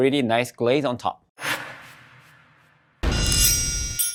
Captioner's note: screen whooshing